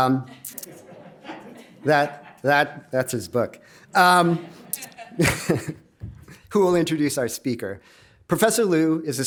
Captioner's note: laugh